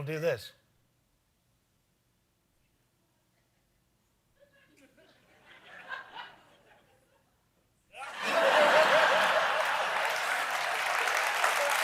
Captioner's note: applause